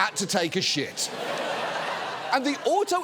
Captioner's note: audience laughing